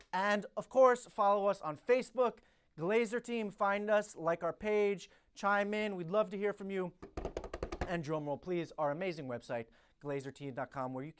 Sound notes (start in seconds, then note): 7.0 drumming on desk